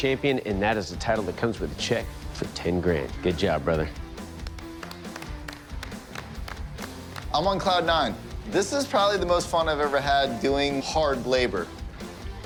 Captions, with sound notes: and that is a title that comes with a check for 10 grand. Good job, brother. [applause] I'm on cloud nine. This is probably the most fun I've ever had doing hard labor.